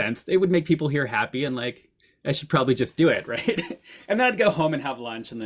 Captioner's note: chuckles